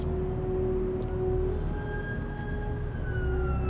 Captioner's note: sirens wailing